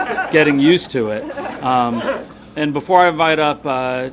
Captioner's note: people laughing